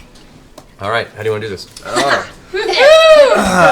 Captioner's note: cheers